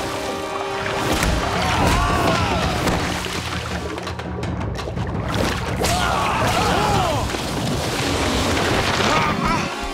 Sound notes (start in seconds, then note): 1.6 screaming; 7.6 splashing